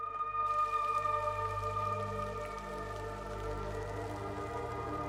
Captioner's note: rain falling